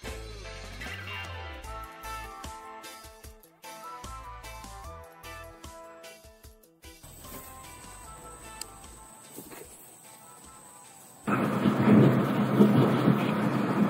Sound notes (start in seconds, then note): 9.2 footsteps; 11.2 car noise